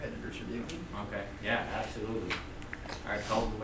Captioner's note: voiceover